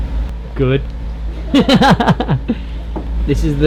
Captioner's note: laughing